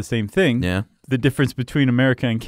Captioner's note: voiceover